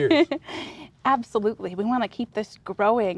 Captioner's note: laughs